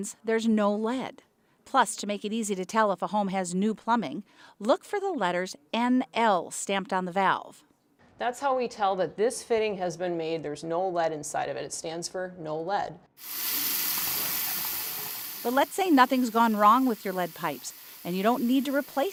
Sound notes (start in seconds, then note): 13.2 water rushing